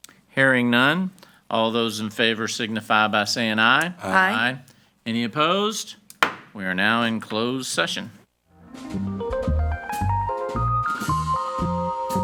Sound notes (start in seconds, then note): 6.2 gavel pounds; 8.5 relaxing music